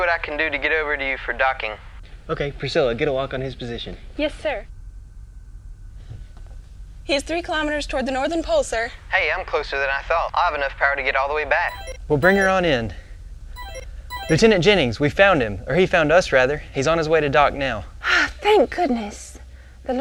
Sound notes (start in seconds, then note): 11.7 computer alert sound